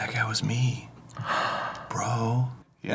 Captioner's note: gasp softly